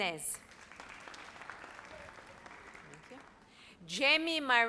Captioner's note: audience applauds